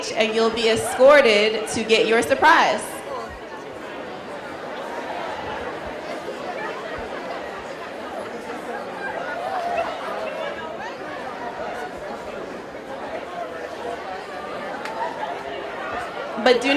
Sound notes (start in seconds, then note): 6.7 indistinct chatter